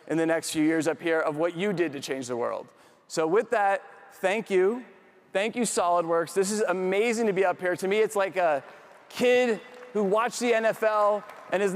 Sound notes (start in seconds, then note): 9.2 audience applauds